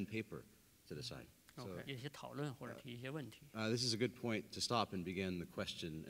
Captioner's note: speaking in Chinese